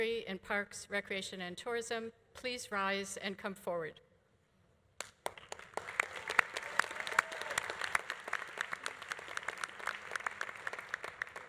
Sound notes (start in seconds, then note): 5.2 audience applauding; 5.8 audience cheering